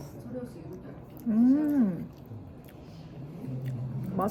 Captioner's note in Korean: 그냥저냥 / 쩝쩝쩝